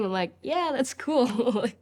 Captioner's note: laughs